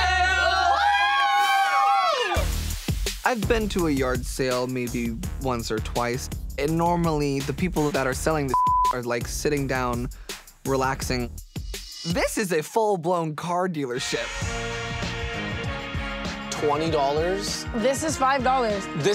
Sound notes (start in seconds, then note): 0.0 all cheering; 8.5 beep